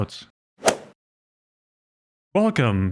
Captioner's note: golf ball hit sound effect